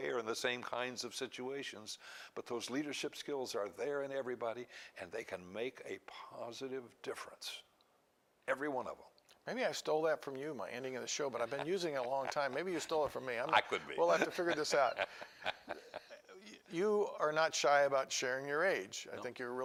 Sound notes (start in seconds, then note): 11.2 laughs